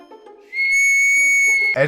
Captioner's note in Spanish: Silbido